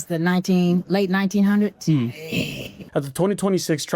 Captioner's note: chuckles